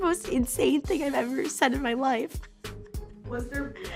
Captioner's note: laughs